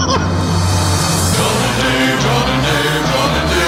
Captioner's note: laughing; music swells; chorus of voices